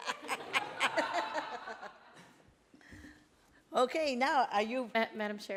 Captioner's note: laughs